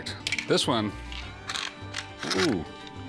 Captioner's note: clacks